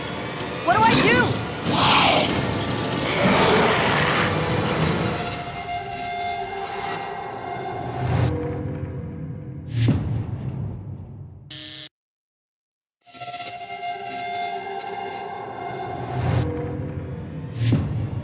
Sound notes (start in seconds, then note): 2.2 shrieks